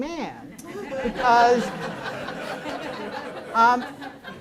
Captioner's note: audience laughs